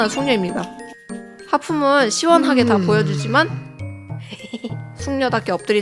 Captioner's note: laugh